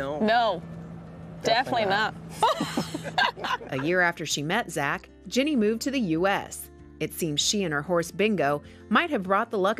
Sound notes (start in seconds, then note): 2.4 laughing